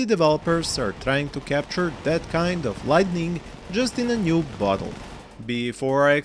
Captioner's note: thunder clap